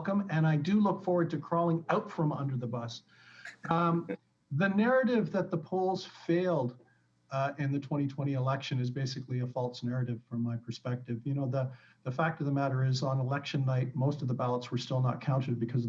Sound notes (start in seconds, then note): 3.5 laughs